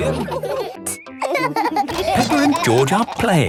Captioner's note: laughing